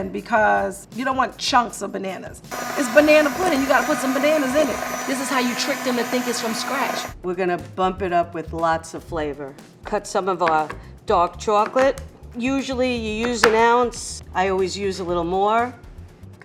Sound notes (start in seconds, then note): 2.5 mixer whirring